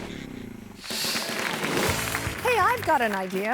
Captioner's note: audience applauding